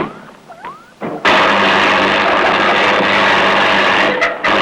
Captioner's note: electronic beeping; electric fizzling